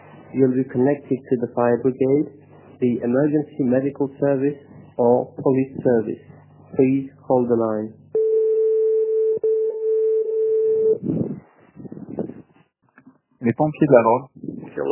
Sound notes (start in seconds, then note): 8.1 beeping